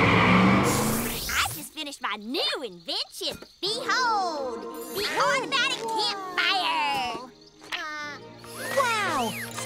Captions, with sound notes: I just finished my new invention. Behold! - The automatic campfire! - [gasps] Wow! Wow!